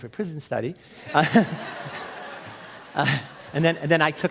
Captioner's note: crowd laughs